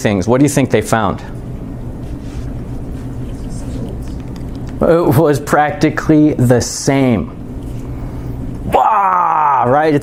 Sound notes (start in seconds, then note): 3.3 students murmuring